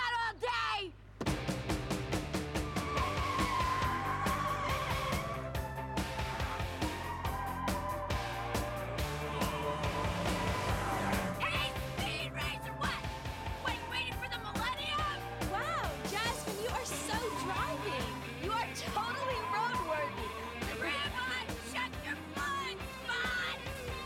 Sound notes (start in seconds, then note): 2.1 tires resceching